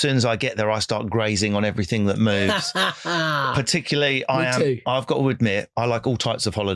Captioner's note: laughing